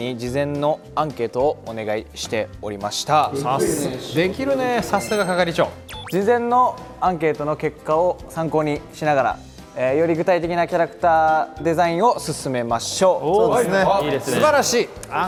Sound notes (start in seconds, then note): 6.1 haha